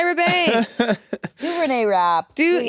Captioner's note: laughs